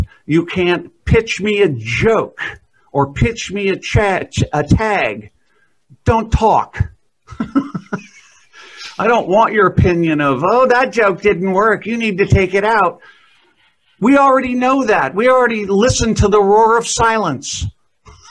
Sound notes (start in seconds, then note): 7.3 laughs; 18.0 chuckles